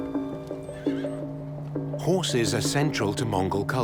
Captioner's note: horse whinnies